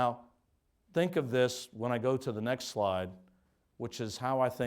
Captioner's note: none